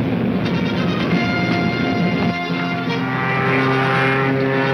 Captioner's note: engine humming